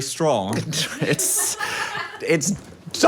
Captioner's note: crew member laughing